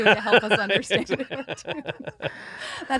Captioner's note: laughing